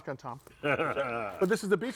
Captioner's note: laughs